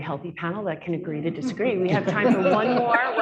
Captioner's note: laughter